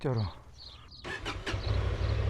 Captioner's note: Vincero’s engine starting sound